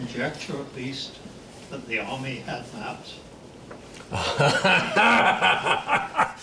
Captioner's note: laugh